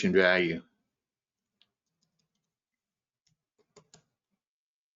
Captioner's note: mouse clicking